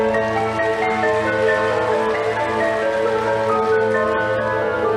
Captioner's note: audience applauding